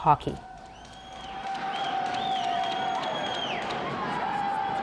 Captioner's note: cheers and applause